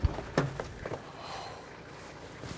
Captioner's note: sighs